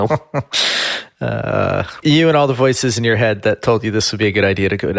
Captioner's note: laughs